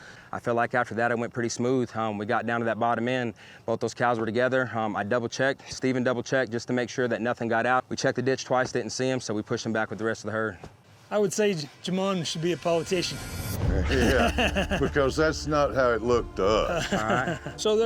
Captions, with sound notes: I FEEL LIKE AFTER THAT, IT WENT PRETTY SMOOTH. WE GOT DOWN TO THAT BOTTOM END, BOTH THOSE COWS WERE TOGETHER, I DOUBLE CHECKED, STEPHEN DOUBLE CHECKED JUST TO MAKE SURE NOTHING GOT OUT. WE CHECKED THE DITCH TWICE, DIDN'T SEE HIM, SO WE PUSHED THEM BACK WITH THE REST OF THE HERD. I WOULD SAY JAMON SHOULD BE A POLITICIAN. [LAUGHTER] BECAUSE THAT'S NOT HOW IT LOOKED TO US. ALL RIGHT.